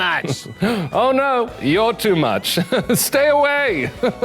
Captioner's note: chuckles